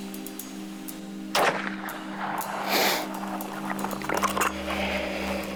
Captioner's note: gunshot firing